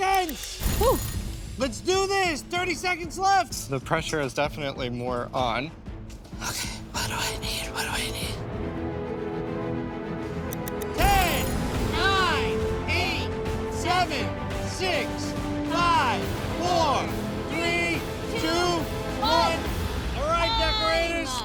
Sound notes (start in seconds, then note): 0.6 suspenseful music; 8.2 clicking; 8.2 intense music